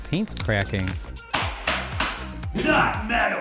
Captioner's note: gavel pounding